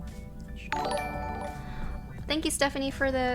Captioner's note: notification tingling